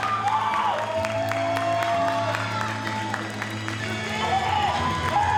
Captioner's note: audience cheers and applauds